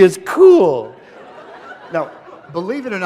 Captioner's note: laughter